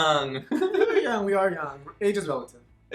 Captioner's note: laughing